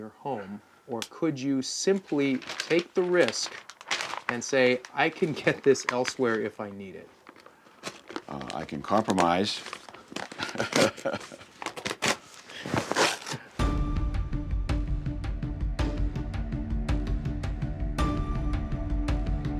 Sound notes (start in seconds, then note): 10.3 laughs